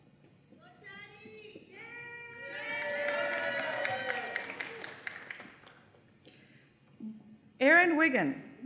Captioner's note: cheering and Applause